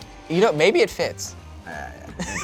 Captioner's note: laughs